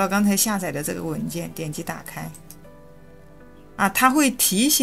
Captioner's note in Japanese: クリック